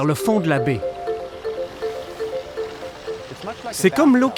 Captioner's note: water sloshing